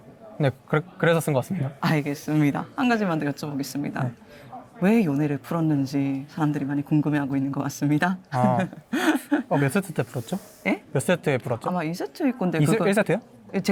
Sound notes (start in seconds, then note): 8.4 laughs